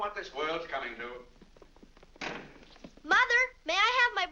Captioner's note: feet pattering down stairs; door slams